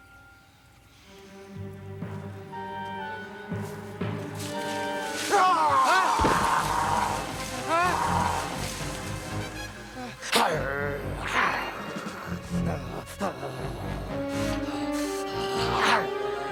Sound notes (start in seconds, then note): 3.4 leaves rustle; 7.6 Paku growls; 9.7 Paku snarls; 10.0 Paku growls; 12.9 dramatic music; 16.3 Paku snarls